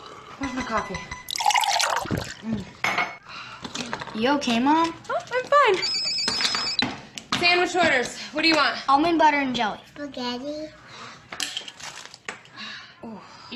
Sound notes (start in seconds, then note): 1.2 cup clanking; 1.3 coffee sloshing; 6.1 phone ringing